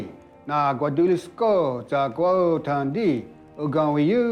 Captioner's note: Ostenaco speaking Cherokee